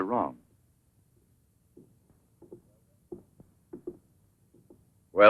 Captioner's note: footsteps approaching